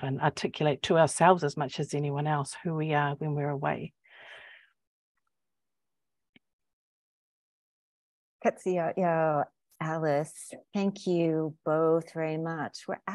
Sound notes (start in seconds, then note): 8.5 speaking indigenous language